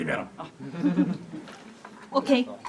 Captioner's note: audience laughs